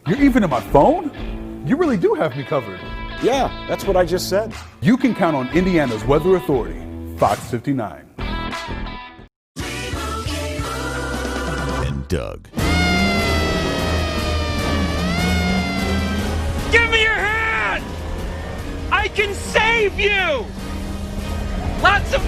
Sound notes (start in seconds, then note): 12.6 siren